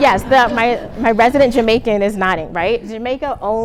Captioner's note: laughter